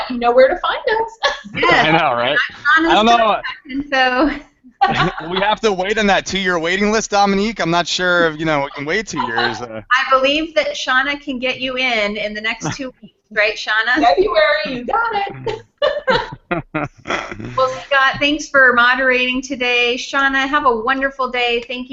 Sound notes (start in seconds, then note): 1.0 laughs; 4.9 audio skips; 15.6 everyone giggles